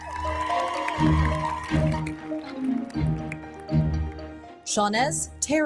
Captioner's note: audience cheering; audience applauding